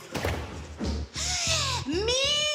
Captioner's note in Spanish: Grito ahogado